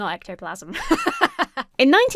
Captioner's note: laughs